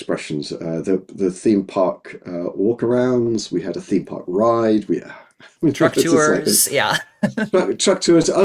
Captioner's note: both laughing